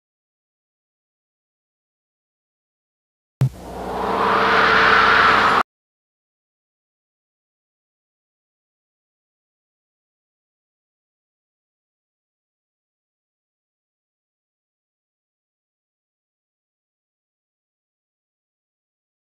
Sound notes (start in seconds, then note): 3.4 analog synthesizer whoosh sounds; 5.9 silence